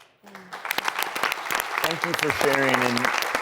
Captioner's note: applause